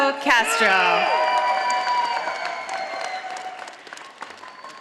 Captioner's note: audience applauding